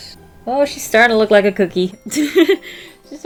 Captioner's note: laughs